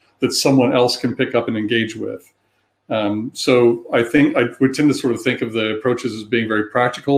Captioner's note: erm